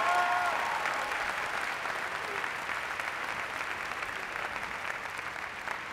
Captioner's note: applause